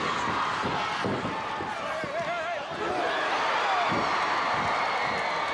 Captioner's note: audience cheering and clapping